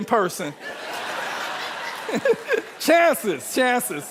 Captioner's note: audience laughing